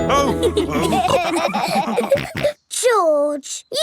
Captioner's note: all laughing